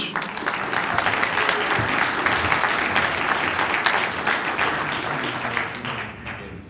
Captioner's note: applause